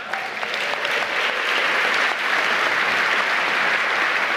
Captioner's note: applause